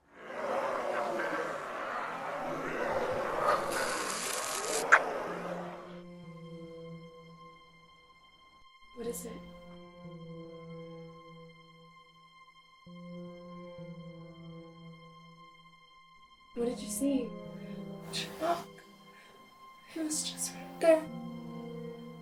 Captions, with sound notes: [demonic growls and snarls] [tongue scrapes] [dark music] - What is it? What did you see? - Chemock. He was just right there.